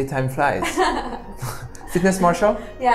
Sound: laughs

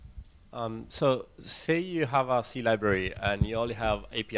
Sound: voiceover

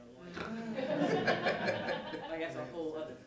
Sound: laughter

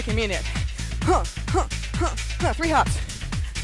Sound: grunting

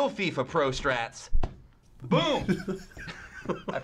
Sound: ball thuds; chuckles

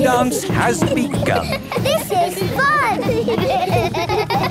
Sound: laughter

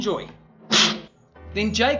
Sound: slurping

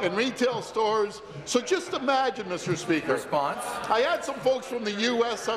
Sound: chuckles

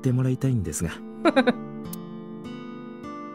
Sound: chuckles

